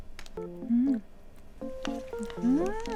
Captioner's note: nom nom